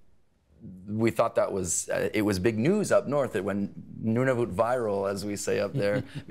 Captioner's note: laughter